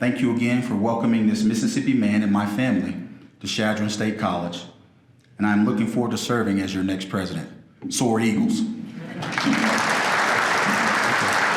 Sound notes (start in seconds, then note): 9.1 applause